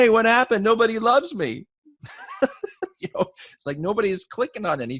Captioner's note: laughs